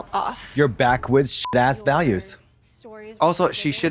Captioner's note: beep